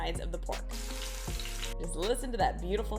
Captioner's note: pork sizzling